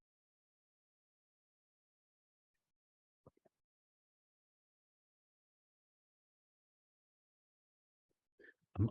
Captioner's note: silence